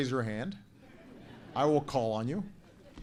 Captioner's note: laughter